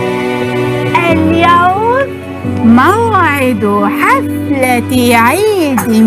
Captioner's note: speaking foreign language